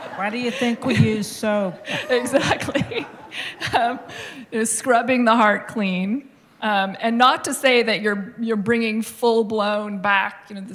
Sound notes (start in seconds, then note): 1.7 laughing